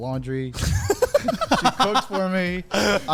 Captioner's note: men laugh